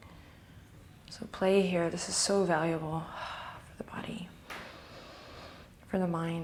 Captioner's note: breathing